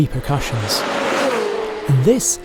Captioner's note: engine revving